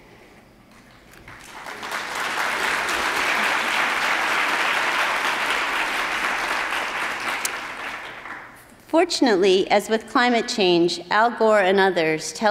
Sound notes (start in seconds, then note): 1.1 attendees applauding